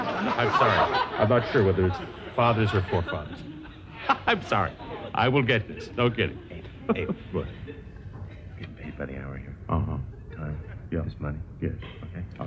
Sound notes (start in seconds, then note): 4.2 laughs